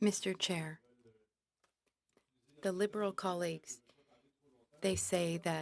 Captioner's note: speaking French